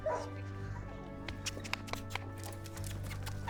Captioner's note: dog barks